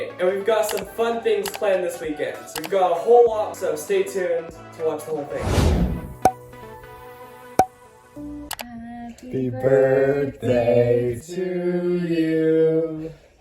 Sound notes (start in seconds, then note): 5.3 swoosh; 6.1 ocasional pops; 8.6 mouse Click, Mom opens Sister's Door, begins singing Happy Birthday